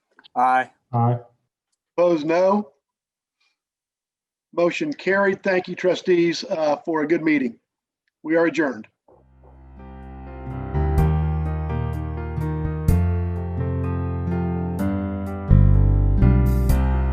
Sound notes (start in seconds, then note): 2.4 silence